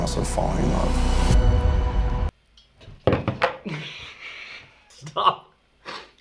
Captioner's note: dramatic music; laughs